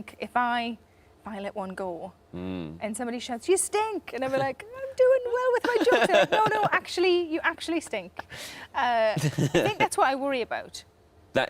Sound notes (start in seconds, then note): 5.6 Tom laughs